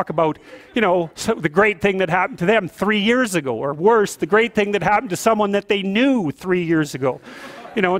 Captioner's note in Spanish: risas